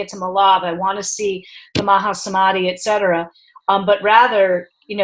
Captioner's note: speaking in foreign language